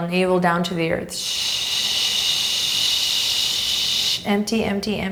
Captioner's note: shushing